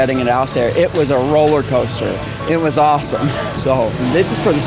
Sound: laughs

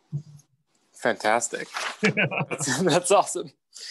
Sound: laughter

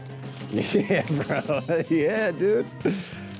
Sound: laughing

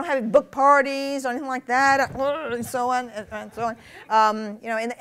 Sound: laughter

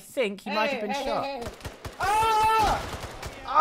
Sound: scream; pain noises

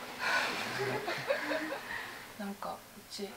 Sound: laughter

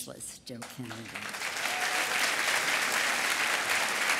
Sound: applause

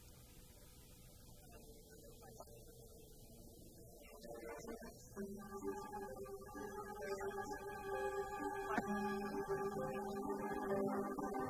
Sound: television continue to play at the background

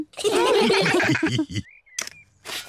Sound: all laugh

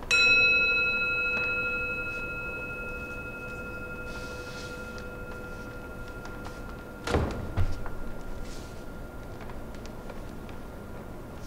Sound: gong

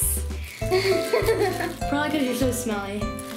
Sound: laughing

